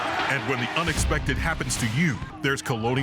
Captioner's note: voiceover